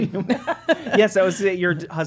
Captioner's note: laughing